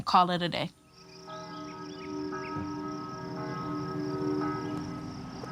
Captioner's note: church bell ringing